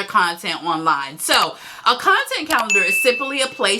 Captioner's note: bell chimes